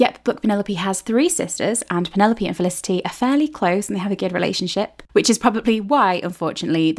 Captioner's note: none